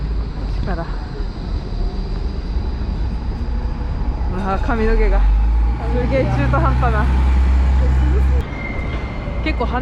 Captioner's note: trams